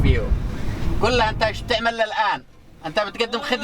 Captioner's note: speaking in Arabic